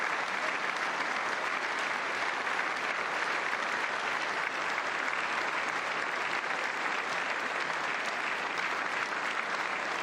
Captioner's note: applause